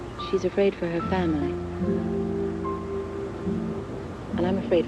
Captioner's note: none